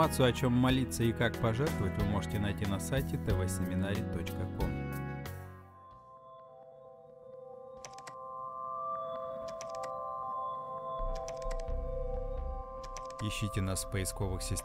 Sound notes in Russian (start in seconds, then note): 4.7 звуки кликов мыши